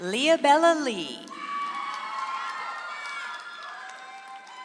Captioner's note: audience applauds